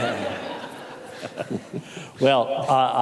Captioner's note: audience laughing